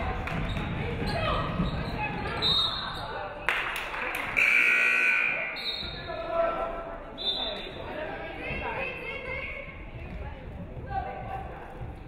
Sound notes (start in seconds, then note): 2.7 referee whistles; 4.3 buzzer buzzes; 4.4 referee whistles